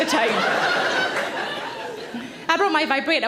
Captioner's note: audience laughs